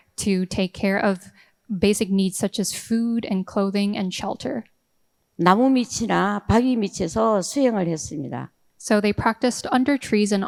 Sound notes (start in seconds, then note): 5.4 speaking in foreign language